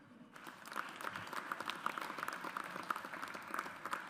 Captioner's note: audience applauds